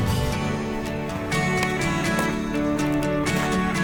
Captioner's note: music and footsteps on gravel